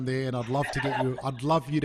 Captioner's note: laughs loudly